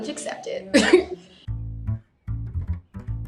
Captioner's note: laughs; upbeat jazzy music